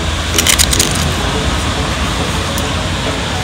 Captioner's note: crunching